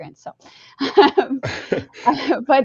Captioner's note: laughter